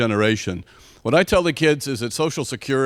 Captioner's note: none